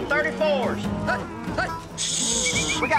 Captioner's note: whistling